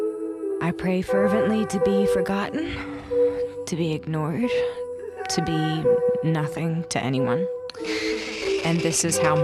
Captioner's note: static laughter